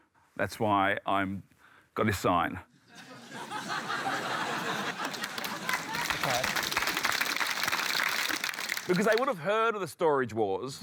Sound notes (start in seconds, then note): 2.8 laughter; 6.5 applause